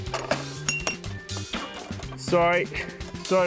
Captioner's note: glass clinks